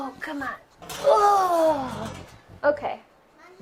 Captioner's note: sighs